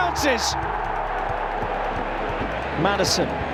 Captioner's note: crowd erupts